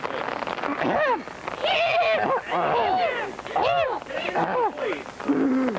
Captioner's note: clearing throats loudly